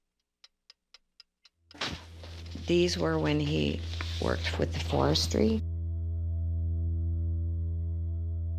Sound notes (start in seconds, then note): 0.4 clock ticking; 8.4 sinister music